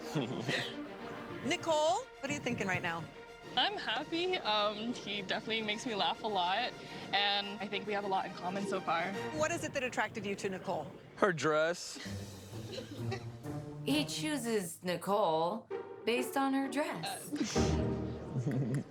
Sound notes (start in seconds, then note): 12.6 chuckles